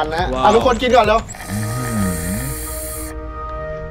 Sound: sucking

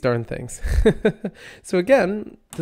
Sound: laughs

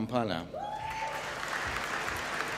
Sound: applause

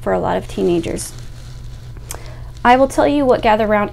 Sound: air whooshing

